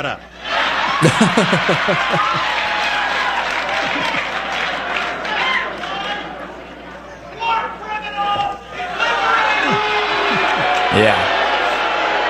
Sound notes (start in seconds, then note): 0.6 laughter and cheering; 8.9 shouting and booing